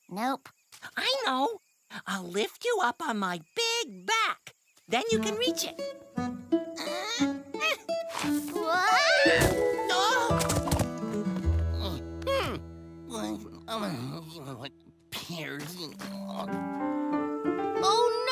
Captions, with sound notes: I KNOW! I'LL LIFT YOU UP ON MY BIG BACK! THEN YOU CAN REACH IT! (GRUNTS OF EFFORT) WHOOOAAAA! AGH! (GRUNTING AND MUTTERING) PEARS! OH NO! (SIGHS)